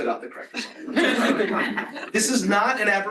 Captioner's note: laughter